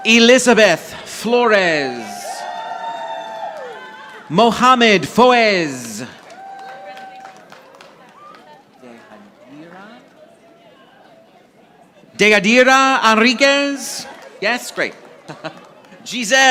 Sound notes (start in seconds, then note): 2.4 audience applauding; 15.0 chuckles